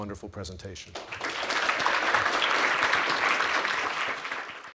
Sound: clapping

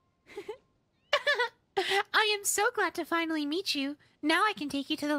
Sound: giggle

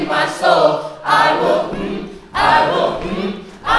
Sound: humming

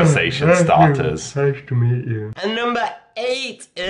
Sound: yawns; while yawning

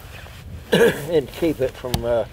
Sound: coughs

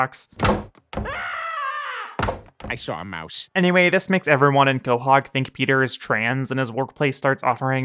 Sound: scream

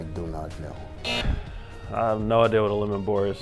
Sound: buzzer

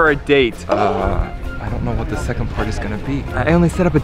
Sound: whispering

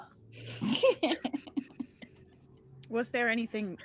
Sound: laughing

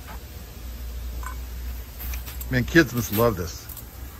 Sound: cup rattling

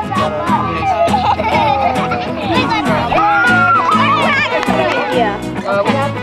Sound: laughter, Applause; general chatter

